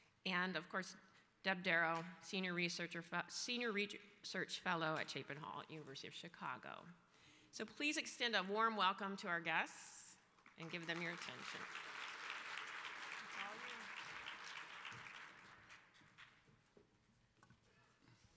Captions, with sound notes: and of course Deb Daro, senior research fellow at Chapin Hall, at University of Chicago. So please extend a warm welcome to our guests, and give them your attention. (audience applauds)